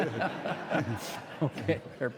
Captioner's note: audience laughing